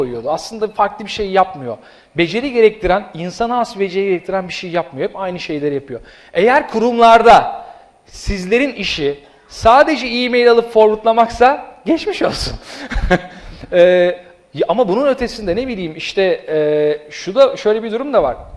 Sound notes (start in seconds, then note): 12.7 laughs